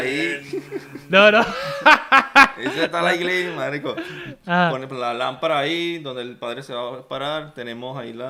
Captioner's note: laughter